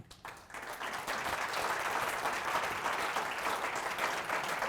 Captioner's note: audience applauds